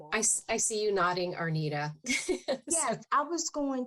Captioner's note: laughs